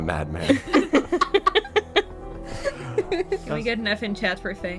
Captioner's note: laughter